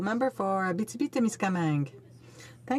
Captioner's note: speaking French